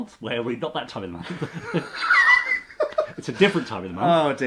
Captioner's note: laughs